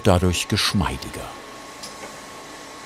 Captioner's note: A soft humming sound